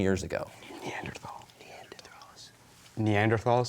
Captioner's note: whispering